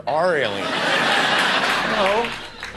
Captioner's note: audience laughter